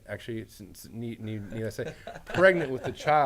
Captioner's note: laughs